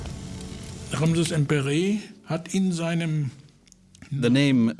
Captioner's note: speaking German